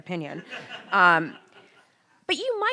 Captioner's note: audience laughing